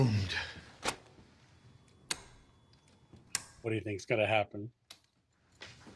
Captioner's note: clicking